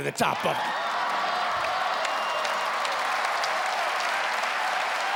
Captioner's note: cheering